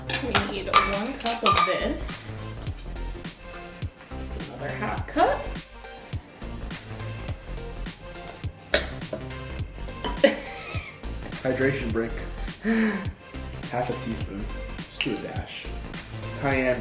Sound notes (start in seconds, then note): 10.3 giggles